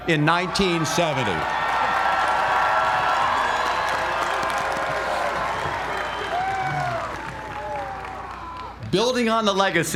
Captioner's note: applause